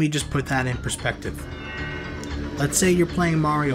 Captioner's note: mystical whirring sound